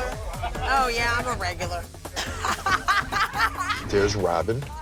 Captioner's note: laughs